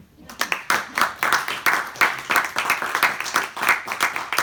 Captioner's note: applause